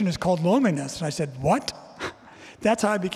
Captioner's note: chuckling